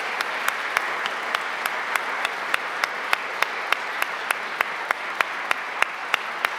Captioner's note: applause